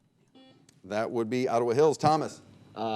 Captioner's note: buzzer beeping